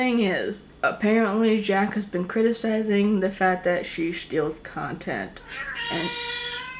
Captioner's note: cat meowing